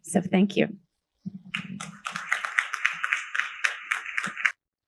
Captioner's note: applause